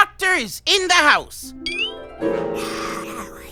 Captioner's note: raspy sounds of protest